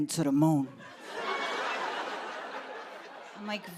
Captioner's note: laughter